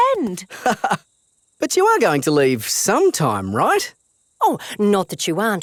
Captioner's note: laughs